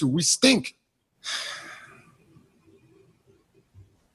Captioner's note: sighs